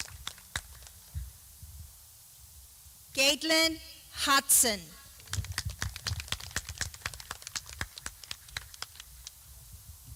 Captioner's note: clapping